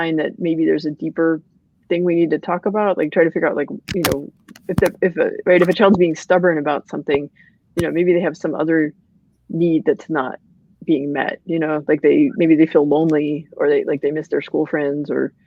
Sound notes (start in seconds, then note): none